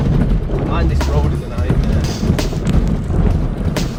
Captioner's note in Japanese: ガタガタ